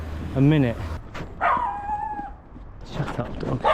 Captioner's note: dog Barks